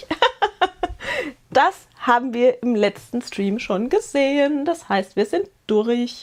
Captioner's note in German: Gelächter